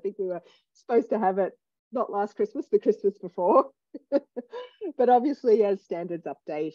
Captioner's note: laughs